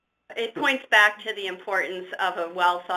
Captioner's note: voiceover